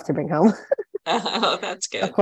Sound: all chuckling

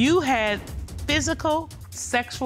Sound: judge dana reading

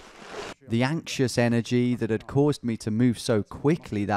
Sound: voiceover

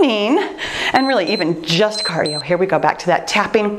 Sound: timer beeps

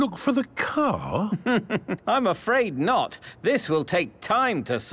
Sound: chuckling

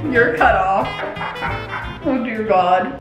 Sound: laughing

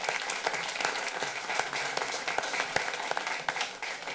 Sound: applause

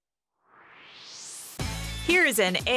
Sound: swoosh

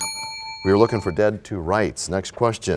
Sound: bell rings, time expires

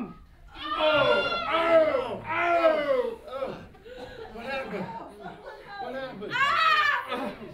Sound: screaming

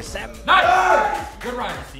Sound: all cheer

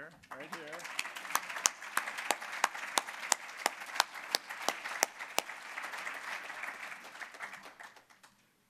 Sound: applause

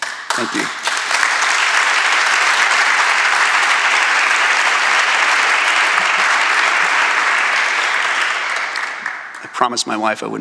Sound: applause

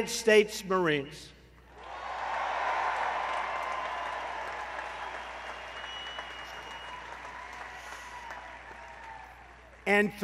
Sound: applause

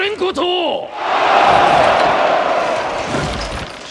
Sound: cheering

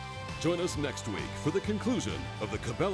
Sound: voiceover

